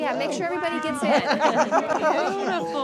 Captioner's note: laughter